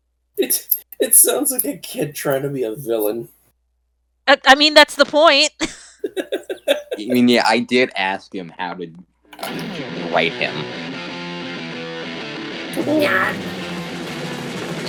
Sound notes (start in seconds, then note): 0.4 chuckles; 6.0 chuckles